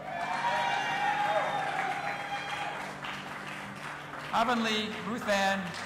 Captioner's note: audience applauding and cheering